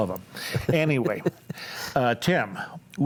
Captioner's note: laughs